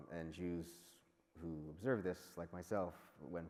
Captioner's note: none